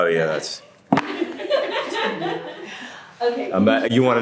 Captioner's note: women laughing in background